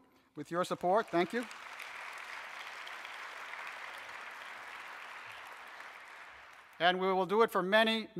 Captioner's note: audience applauses